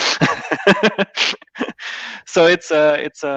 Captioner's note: laughs